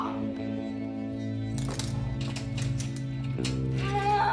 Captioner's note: moans; metal clasping